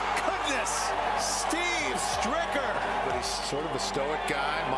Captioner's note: cheers and applause